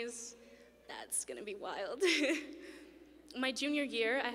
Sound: laughs

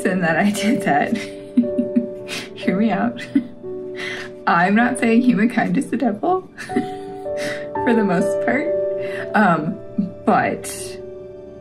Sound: laugh

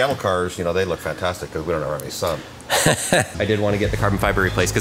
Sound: laughing

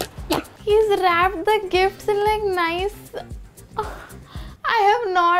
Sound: gasps

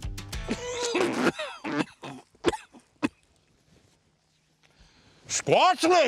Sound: coughing

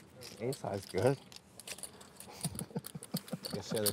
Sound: laughs

